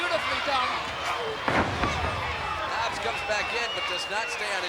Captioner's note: body thudding